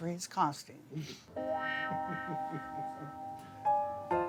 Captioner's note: laughing